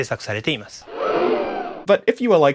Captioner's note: crowd Gasp